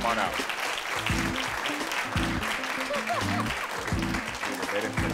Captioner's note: audience applauding